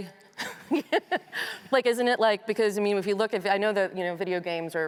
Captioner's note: laughs